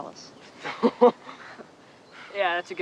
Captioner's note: laughter